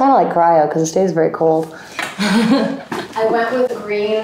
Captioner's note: chuckles